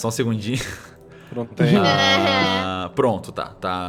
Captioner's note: laughter